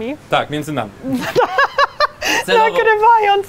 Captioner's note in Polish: śmiech